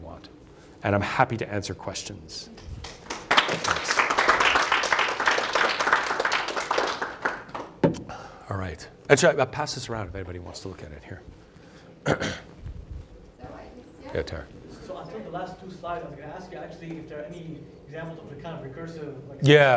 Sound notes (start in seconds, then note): 2.8 clapping